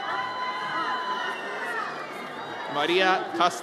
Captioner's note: audience cheers